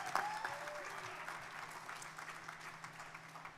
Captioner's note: crowd cheering